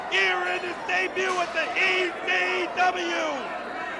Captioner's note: crowd cheering